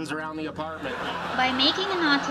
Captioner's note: laugh track plays